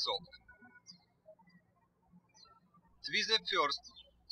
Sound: birds chirping

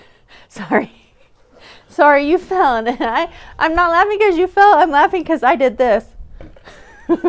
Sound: laughing; still laughing

